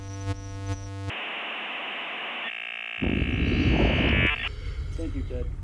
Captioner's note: staticky modem humming